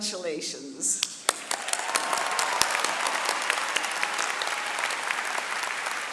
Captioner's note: audience cheering and clapping